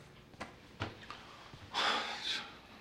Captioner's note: sighs